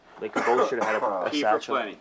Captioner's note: coughing; voiceover